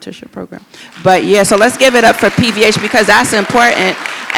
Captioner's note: audience applauds